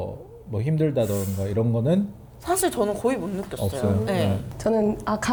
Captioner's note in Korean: 콧방귀